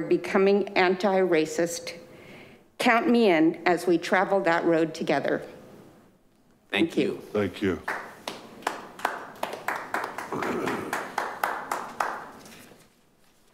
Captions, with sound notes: becoming anti-racist. Count me in as we traveled that road together. - Thank you. - Thank you. (group clapping)